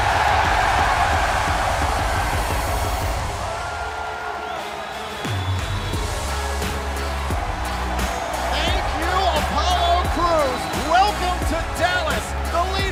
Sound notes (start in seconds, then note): 1.7 cheers & applause